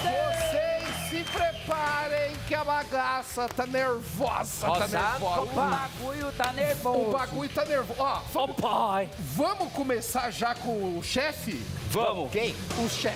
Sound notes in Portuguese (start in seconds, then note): 2.0 aplausos